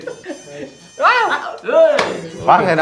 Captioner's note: sounds of excitement with fear